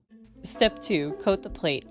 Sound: gong chimes

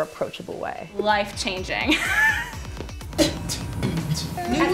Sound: laughs; beatboxes

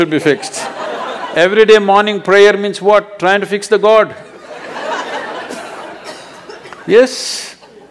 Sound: laughter

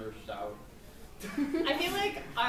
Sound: laughs

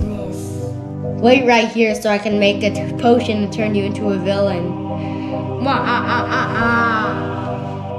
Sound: evil laugh

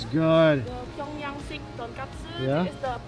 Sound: speaking in foreign language

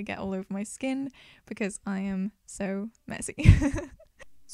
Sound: laughs

